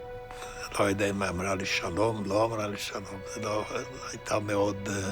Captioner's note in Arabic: الصوت المنطوق باللغة الأجنبية